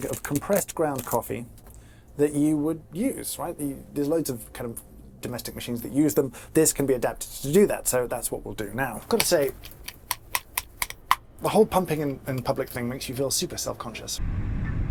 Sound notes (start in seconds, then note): 9.1 pump clacking